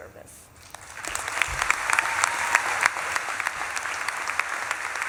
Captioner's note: audience claps and cheers